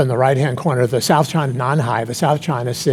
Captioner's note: speaking in foreign language